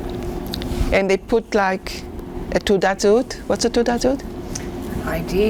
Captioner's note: hebrew